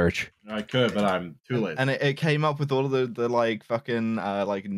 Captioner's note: keyboard tapping